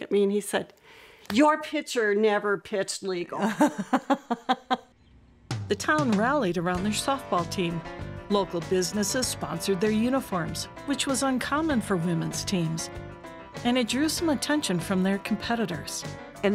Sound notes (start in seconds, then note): 3.4 laughing